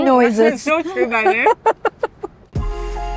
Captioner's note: murmurs; laughs; soulful instrumental music